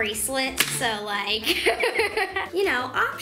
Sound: laughs

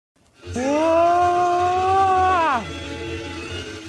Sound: all scream

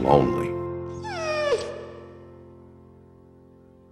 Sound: dog whimper

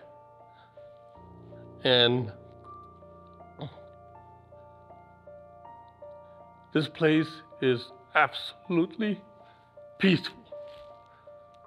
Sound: voice breaking

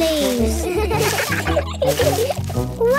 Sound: laughter

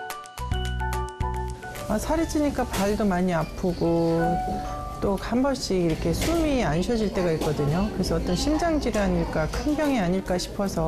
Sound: voiceover

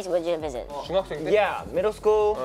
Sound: speaking Korean

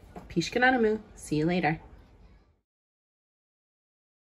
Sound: non-english speech

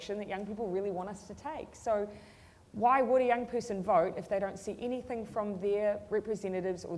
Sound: none

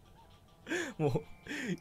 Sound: inhales

